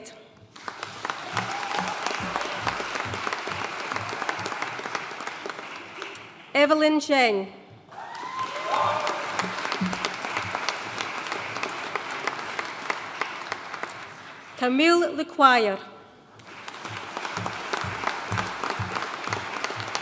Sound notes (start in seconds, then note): 0.5 audience cheering and applauding; 7.9 audience cheering and applauding; 16.3 audience applauding